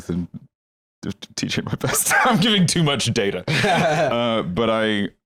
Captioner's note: laughs